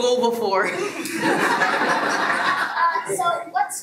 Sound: everyone laughs

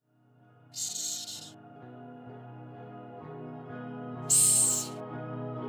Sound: relaxing music; hissing

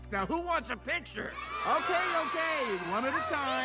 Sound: cheering

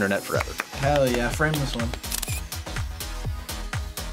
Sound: camera shutter clicks

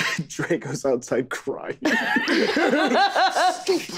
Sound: group laughing

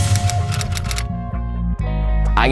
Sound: typewriter clicking; inspirational music

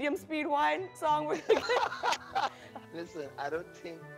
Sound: laughs

